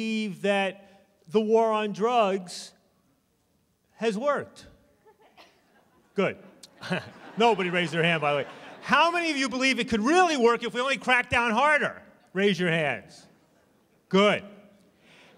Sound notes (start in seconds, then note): 6.4 laughter